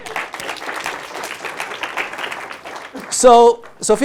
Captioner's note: applause